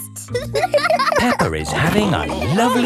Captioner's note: giggles; laughing